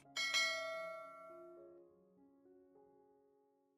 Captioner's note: bells